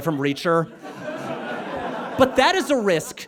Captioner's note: audience laughs